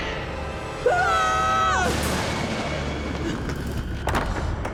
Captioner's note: scream